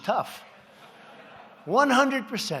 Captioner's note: laughter